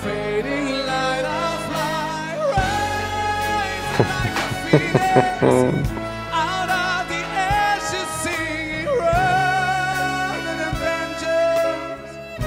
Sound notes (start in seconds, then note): 3.8 chuckles